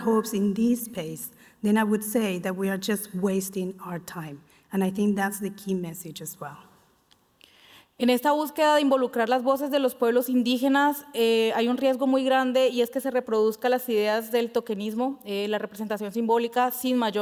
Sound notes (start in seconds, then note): 14.3 speaking Spanish